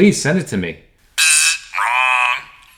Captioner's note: imitates buzzer